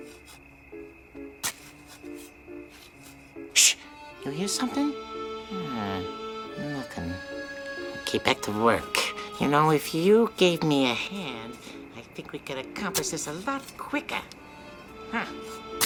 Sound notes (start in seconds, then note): 0.2 crickets chirping; 1.4 shovel plunges; 15.7 grunts